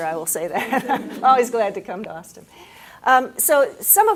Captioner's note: laughs